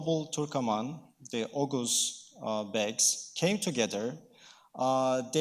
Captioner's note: speaking in foreign language